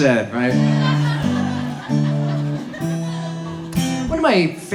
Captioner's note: audience laughs